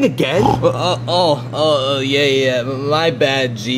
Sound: snoring

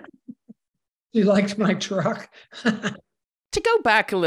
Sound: laughs

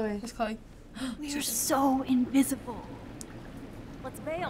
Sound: gasps

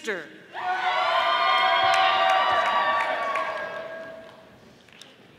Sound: audience applauding

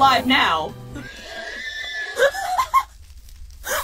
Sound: Harold the Horse's final scream of pain

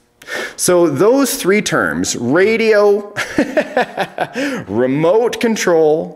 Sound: laughs

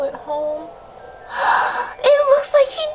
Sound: gasps

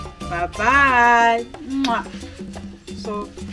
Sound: kisses

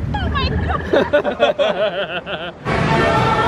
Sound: all laughing

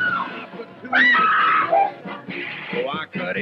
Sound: screams

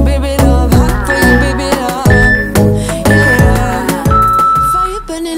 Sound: workout timer beeping

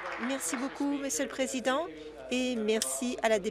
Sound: applause

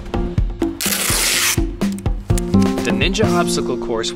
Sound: tape screeching

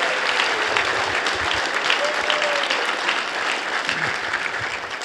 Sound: applause

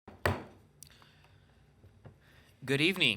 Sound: gavel slams

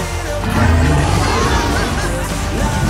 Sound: dragon roars

